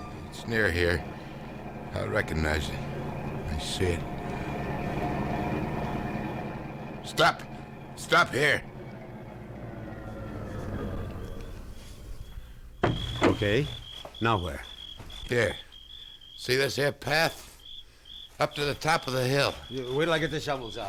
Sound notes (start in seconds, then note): 12.2 engine shuts off; 14.6 crickets chirping